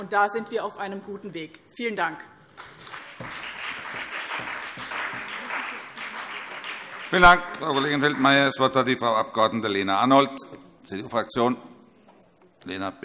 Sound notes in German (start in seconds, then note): 2.5 Beifall BÜNDNIS 90/DIE GRÜNEN und CDU